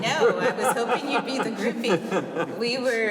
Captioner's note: laughter